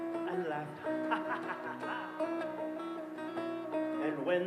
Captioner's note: laughs